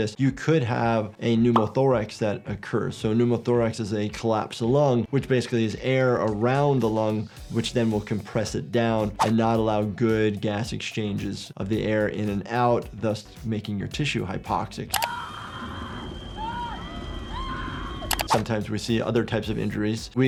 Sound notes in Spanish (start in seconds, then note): 15.0 comprador gritando